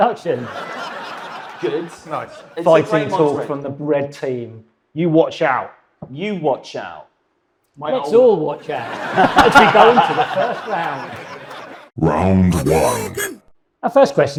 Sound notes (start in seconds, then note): 0.1 audience laughs; 8.6 audience laughing